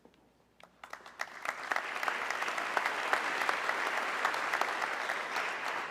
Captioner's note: audience clapping